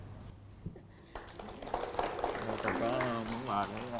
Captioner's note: applause